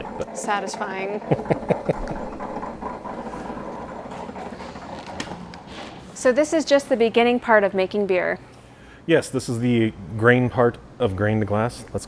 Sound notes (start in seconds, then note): 1.2 laughing